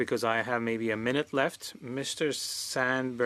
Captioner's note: speaking French